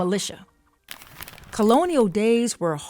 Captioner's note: image rustling